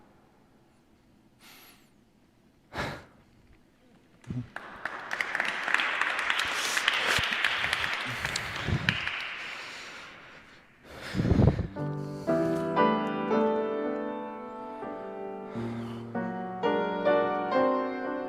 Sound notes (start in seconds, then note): 4.2 applause; 11.7 piano Music